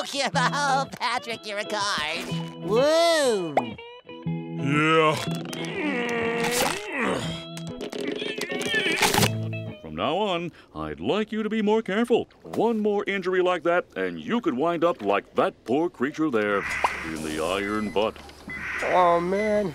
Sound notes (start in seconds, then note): 5.6 grunting